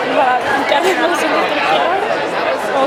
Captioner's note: speaking in Icelandic